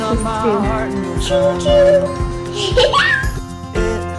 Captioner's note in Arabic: تضحك